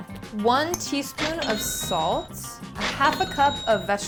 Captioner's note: cash register chimes